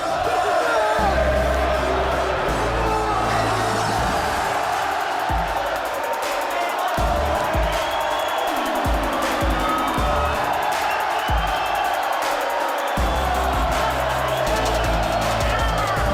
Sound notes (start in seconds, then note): 0.0 crowd chanting "Ole, Ole, Ole"; 8.4 crowd cheering